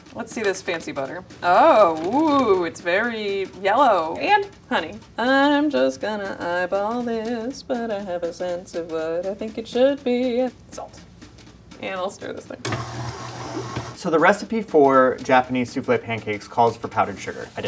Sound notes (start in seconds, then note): 12.6 mixer whirring